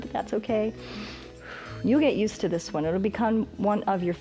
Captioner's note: inhales and exhales